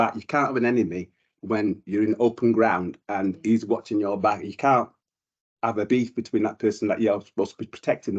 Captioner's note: none